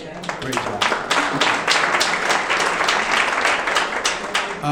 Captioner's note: audience clapping